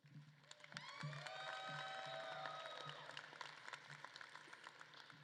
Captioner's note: audience claps and cheers